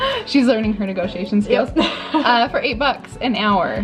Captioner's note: both laugh; laughs